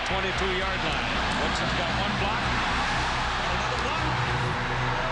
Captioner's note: crowd cheering